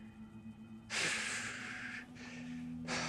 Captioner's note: sighs